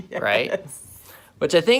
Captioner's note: chuckling